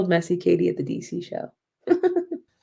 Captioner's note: laughter